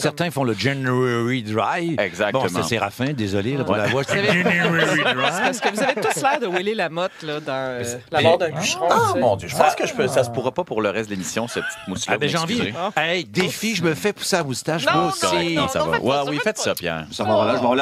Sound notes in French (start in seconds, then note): 3.5 rires